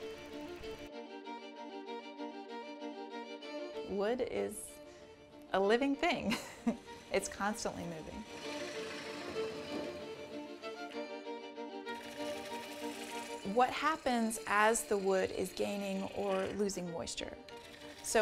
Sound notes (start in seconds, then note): 0.3 upbeat music; 6.2 laughs; 8.9 upbeat music